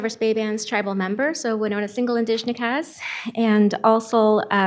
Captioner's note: speaking Ojibwe